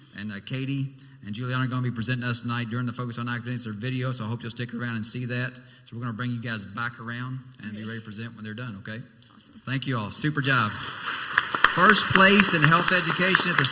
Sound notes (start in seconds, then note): 10.3 crowd applauds